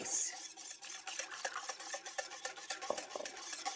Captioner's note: mixture whisking